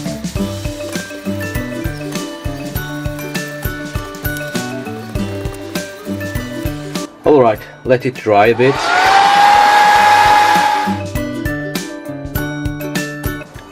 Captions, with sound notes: alright! let it dry a bit *vruuuUUUUuuueee* (head dryer muffled by bright music)